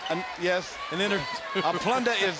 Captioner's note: laughs